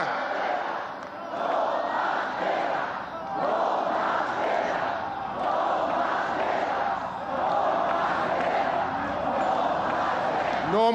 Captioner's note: people chanting